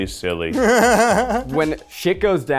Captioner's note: laughing